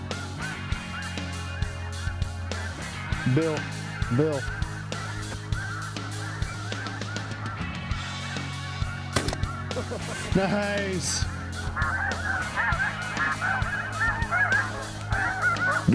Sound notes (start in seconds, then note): 8.8 gun shot; 11.4 goose calls